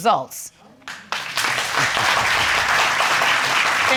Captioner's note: audience applauding